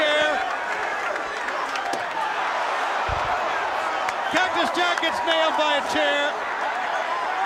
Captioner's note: applause